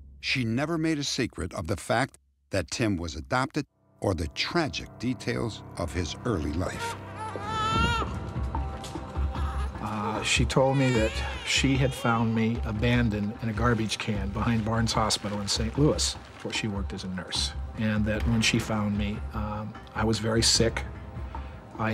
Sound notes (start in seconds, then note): 6.4 baby crying